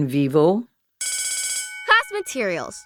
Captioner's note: school bell rings